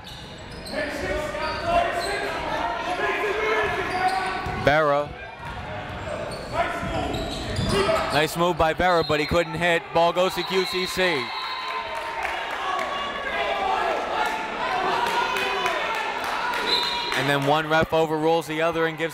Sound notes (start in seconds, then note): 11.4 crowd cheers; 16.6 whistle